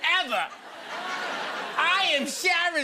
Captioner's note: laughter